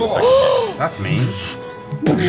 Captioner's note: gasps